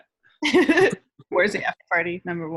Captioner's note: laughs